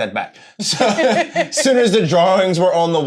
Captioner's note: both laughing